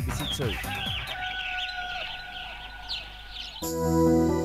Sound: birds chirping

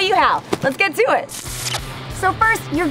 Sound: static

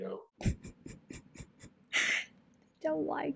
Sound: sobbing

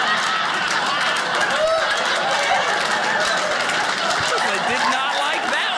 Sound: audience laughing; audience cheering

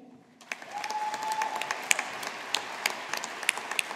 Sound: audience applauding

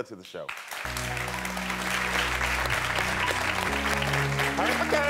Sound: audience applauding

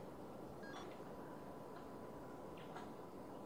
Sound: beeping

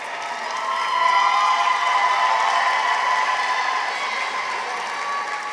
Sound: audience members cheer

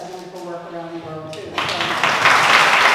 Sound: applause

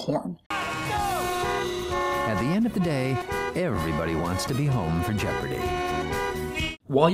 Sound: horn sound with voiceover

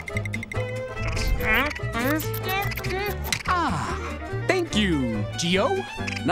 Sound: grunting

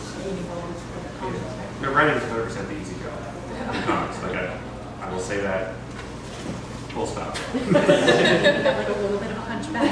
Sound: laughter

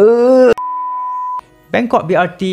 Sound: beep

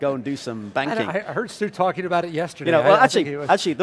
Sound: laughing

